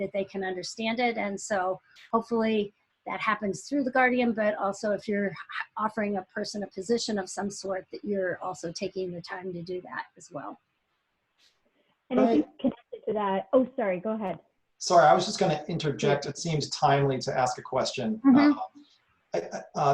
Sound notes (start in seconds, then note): 12.1 multiple voices talking